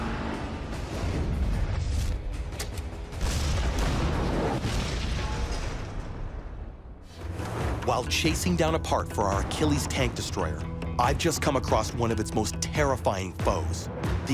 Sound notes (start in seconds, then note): 0.2 energetic music; 2.9 gun banging